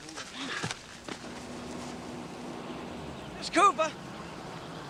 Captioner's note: car engine revving